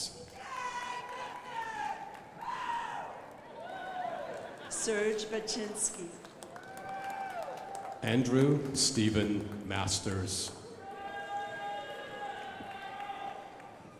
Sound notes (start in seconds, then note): 0.2 crowd applauding; 6.2 crowd applauding; 10.4 crowd applauding